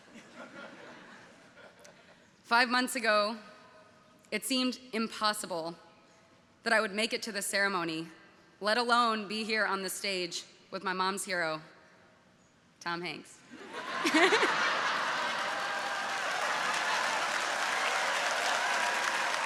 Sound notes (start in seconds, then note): 0.2 audience laughing; 13.6 audience laughing; 14.0 laughing